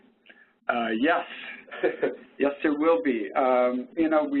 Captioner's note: chuckles